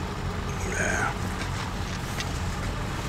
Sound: grumbles

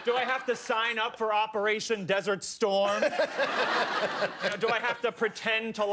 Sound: laughter

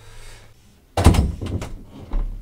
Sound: door opens

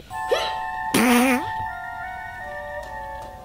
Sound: farts

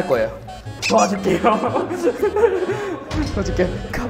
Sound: laughs

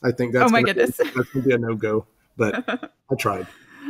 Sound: laughing

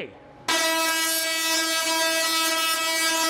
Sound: buzzing

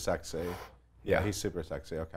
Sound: breathes out

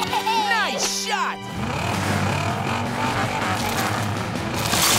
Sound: engine revving

